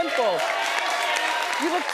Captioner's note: audience cheering